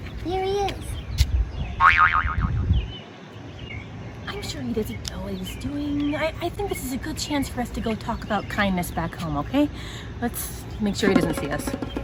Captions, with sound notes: There he is. [Boing!] I'm sure he doesn't know what he's doing. I think this is a good chance for us to go talk about kindness back home, okay? Let's make sure he doesn't see us. [Drums]